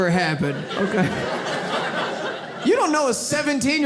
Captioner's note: audience laughs